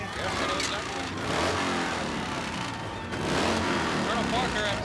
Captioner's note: engine revving